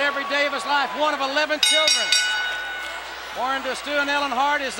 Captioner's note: bell rings